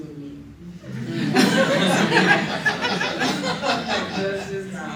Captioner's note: laughter